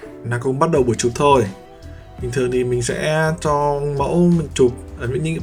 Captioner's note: speaks in a foreign language